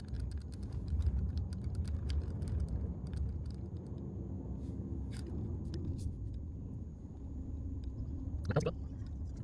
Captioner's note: wind Blowing